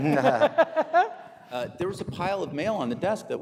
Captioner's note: audience laughing